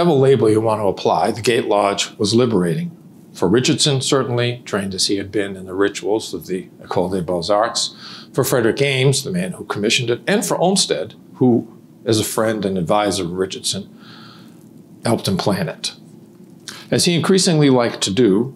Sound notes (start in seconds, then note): none